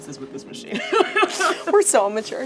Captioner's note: laughs